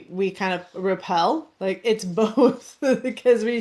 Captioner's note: laughs